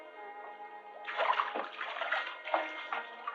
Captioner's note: water splashing